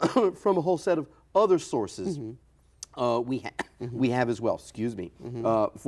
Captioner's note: coughs